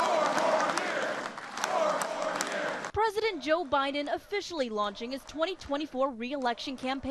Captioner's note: chanting